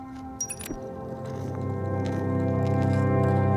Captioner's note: audio skips; somber music